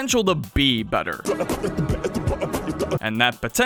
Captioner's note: Morshu beatbox; Morshu eatbox